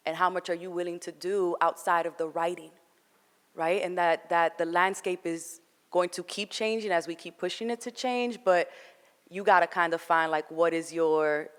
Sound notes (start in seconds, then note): none